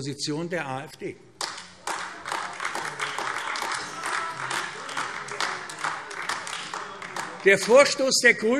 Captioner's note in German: Beifall AfD - Unruhe